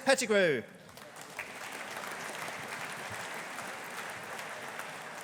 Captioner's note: audience applauding